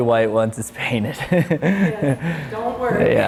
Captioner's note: laughs